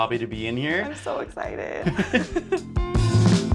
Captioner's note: laughs; soft jazzy music